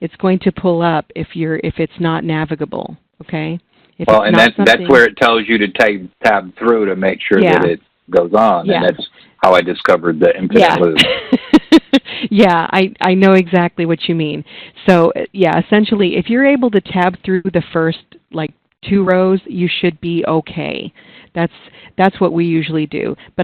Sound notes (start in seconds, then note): 12.2 laughing